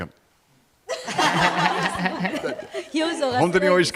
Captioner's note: laughs